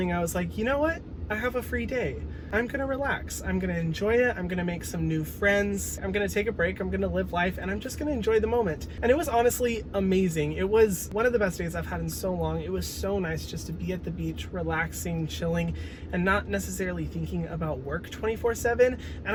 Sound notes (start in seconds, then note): none